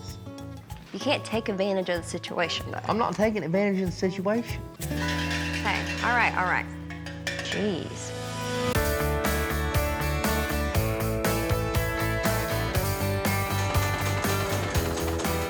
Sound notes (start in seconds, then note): 4.7 bell ringing; 13.5 sewing machine